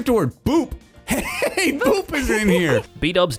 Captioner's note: giggles